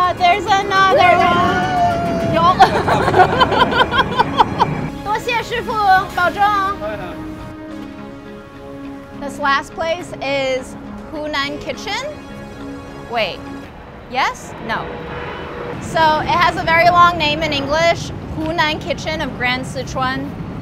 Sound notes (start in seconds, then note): 0.9 laughing; 5.4 speaking foreign language